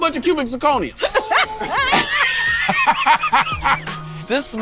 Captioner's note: group laughing